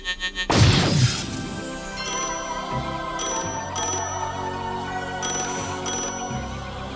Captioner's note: dramatic music; phone ringing